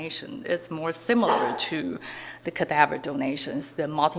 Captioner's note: audience member sneezing